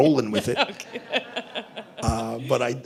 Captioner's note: laughter